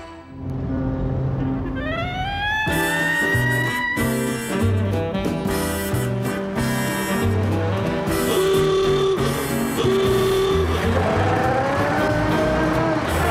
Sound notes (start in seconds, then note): 8.0 car horn